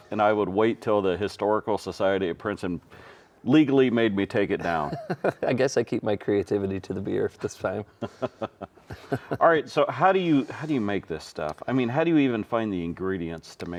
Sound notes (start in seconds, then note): 4.6 chuckling; 7.9 both chuckling